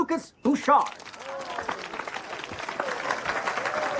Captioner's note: applause